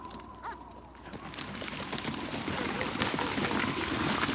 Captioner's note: hooves clop